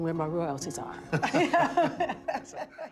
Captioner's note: laughter